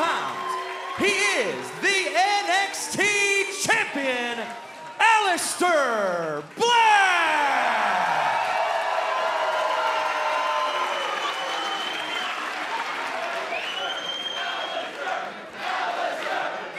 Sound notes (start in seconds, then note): 7.5 cheers and applause; 16.2 fans chanting